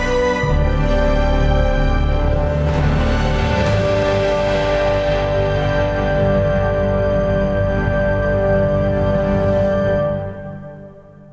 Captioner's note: orchestral music; bubbles